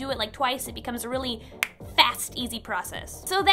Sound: snap

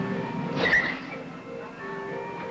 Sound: brakes screech

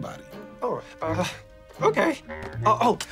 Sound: chuckles

